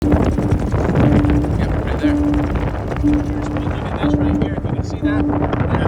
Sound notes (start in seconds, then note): 0.0 suspenseful music; 0.0 wind whooshing